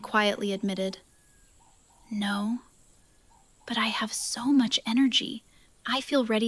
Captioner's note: whispers